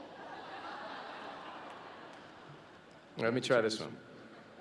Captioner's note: laughter